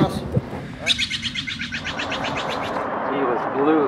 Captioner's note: birds